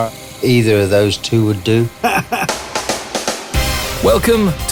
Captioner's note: laughs